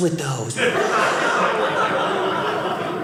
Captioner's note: audience laughing